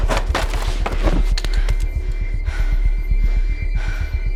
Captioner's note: banging on door; Cara breathing heavily